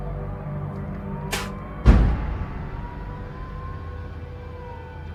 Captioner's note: Robert spitting